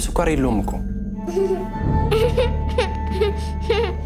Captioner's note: laughing